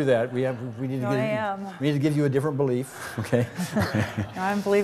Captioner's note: laughs